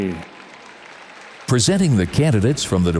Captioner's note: audience applauds